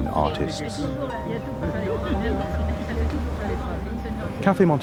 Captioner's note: people chattering